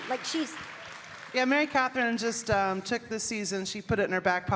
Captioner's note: audience cheering